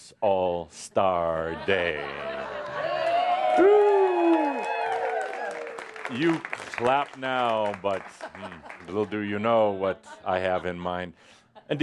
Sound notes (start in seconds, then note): 2.6 audience cheering and applause